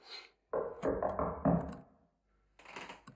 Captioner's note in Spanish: Golpes